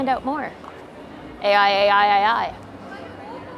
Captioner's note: people chattering